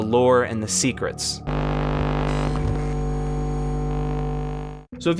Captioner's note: electronic hum